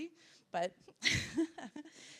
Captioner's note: laughing